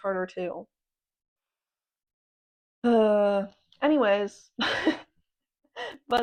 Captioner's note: sigh